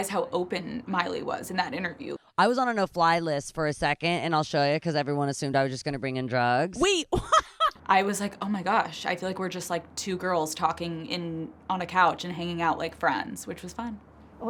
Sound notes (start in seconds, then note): 7.2 laughs